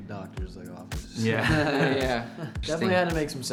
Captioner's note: band members laugh